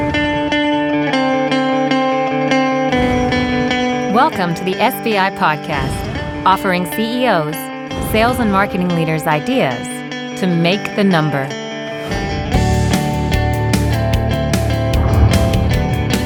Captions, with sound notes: (upbeat music) [Voiceover] Welcome to the SBI podcast, offering CEOs, sales and marketing leaders ideas to make the number.